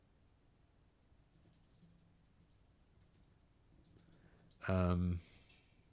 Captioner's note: silence